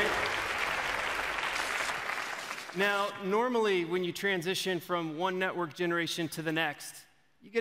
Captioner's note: applause